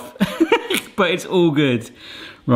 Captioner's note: laughs